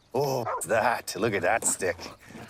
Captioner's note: dog barks